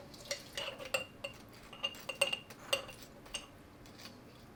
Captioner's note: spoon clattering